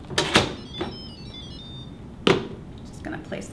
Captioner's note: cooker beeping musically